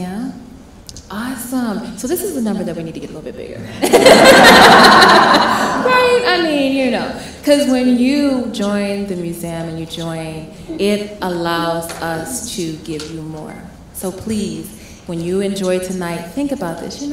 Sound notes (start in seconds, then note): 3.6 all laughing